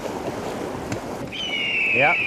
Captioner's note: sound of a hawk